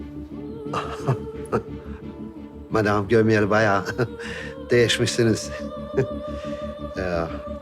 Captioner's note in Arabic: يضحك